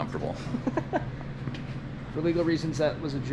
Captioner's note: laughs